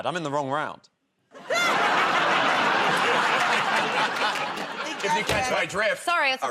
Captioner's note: laughter